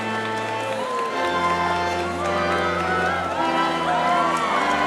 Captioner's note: audience cheering